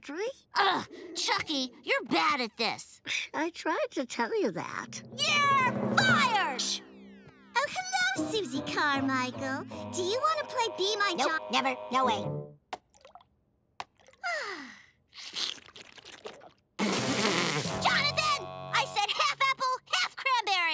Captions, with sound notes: Ugh, Chuckie, you're bad at this. I tried to tell ya that. - You're fired! - Shh! Oh, hello, Susie Carmichael. Do you wanna play, Be My J-- I never really Nope, never, no way. [sighing] [slurping] Jonathan! I said, "Half apple, half cranberry!"